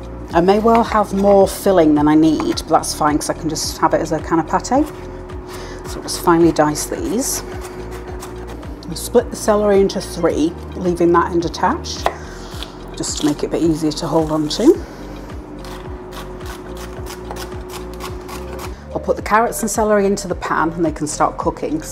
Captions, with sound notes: I may well have more filling than I need, but that's fine, because I can just have it as a kind of pate So we'll just finely dice these [CHOP CHOP CHOP] Split the celery into three [SLICING] leaving that end attached to make it a bit easier to hold on to [CHOP CHOP CHOP] I'll put the carrots and celery into the pan and they can start cooking,